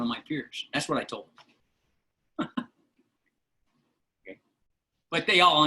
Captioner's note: laughter